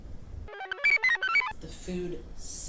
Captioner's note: computer chirps